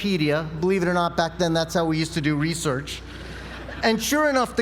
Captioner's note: laugh